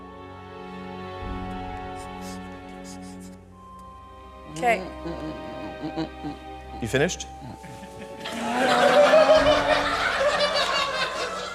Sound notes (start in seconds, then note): 5.4 groans; 7.4 laughter